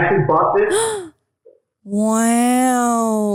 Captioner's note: gasping